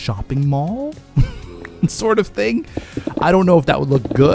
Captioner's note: laughs